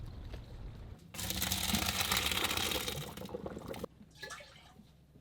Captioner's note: pasta splashing